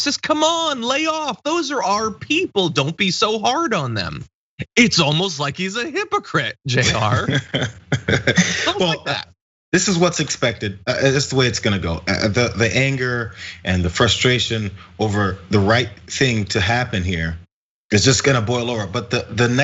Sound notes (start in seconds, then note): 6.7 laugh